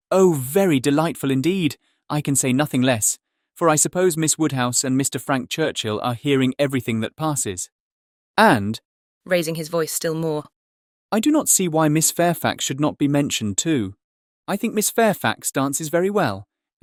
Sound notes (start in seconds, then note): 8.8 raising his voice still more